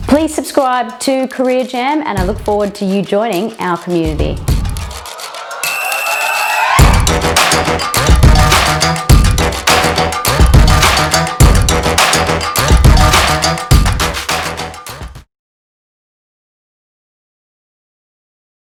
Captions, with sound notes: Please subscribe to Career Jam and I look forward to you joining our community. (upbeat music) (silent)